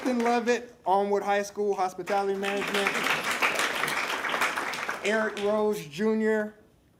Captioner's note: applause